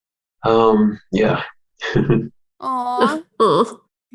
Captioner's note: chuckles